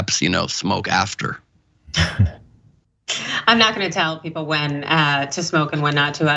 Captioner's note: laugh